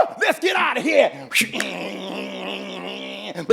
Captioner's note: running